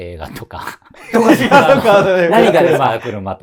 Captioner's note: laughing